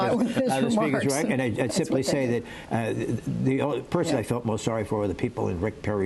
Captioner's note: laughter